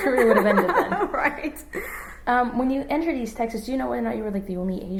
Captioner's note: laughs